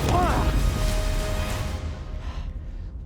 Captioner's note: thud; breathing heavily